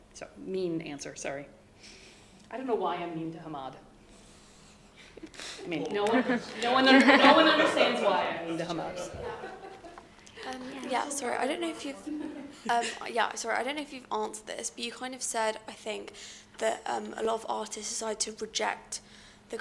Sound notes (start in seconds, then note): 9.2 audience laughing